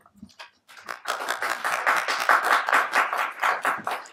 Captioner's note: applauding